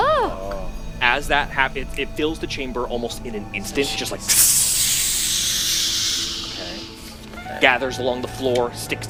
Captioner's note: gaseous noise